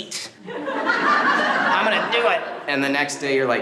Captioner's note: group laughs